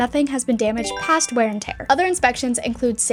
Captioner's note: text chiming